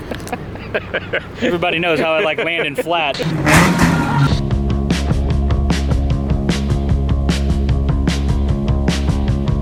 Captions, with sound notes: Everybody knows how I like landing flat. (crashing) (soft rock music)